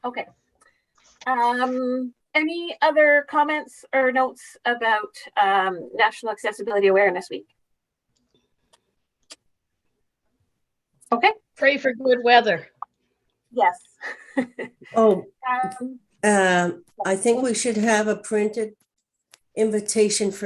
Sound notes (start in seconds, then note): 14.0 laughing; 16.1 static audio